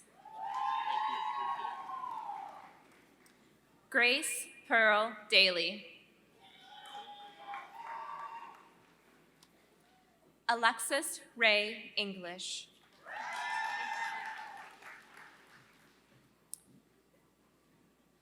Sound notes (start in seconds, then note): 0.3 applause; 6.0 applause